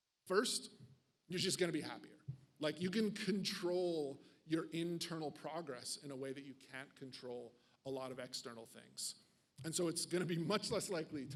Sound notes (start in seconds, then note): none